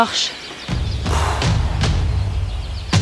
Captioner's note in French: soupirs